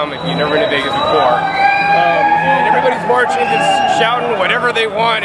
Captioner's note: cheering cuts over